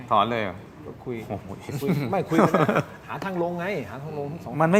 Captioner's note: laughter